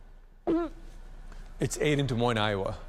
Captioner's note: farts